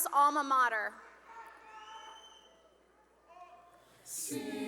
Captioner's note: cheering